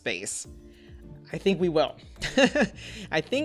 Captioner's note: laughs